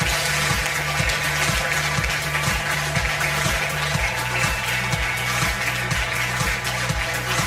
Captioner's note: audience applause; upbeat music